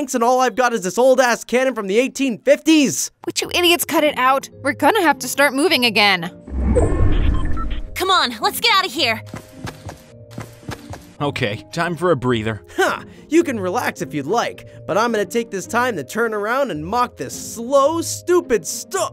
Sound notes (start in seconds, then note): 6.5 storm whirring; 9.2 footsteps tapping; 13.1 laughs; 18.8 upbeat ethereal music